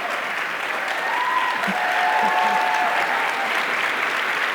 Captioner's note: audience cheering